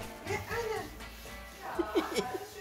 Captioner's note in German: Er lacht